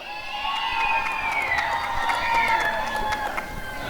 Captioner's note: applause and cheering